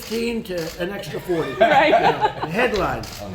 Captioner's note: laughter